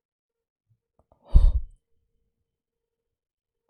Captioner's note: exhales